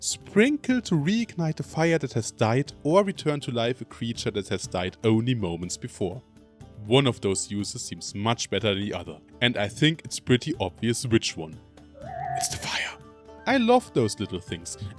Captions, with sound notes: sprinkle to reignite a fire that has died or return to life a creature that has died only moments before one of those uses seems much better than the other and I think it's pretty obvious which one (Whispering) it's the fire! I love those little things